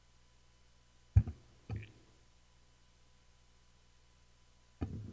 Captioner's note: mic clattering